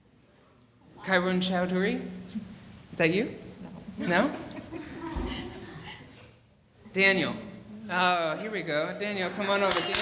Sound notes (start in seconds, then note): 4.2 laughing